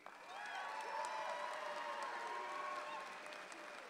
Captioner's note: audience applauds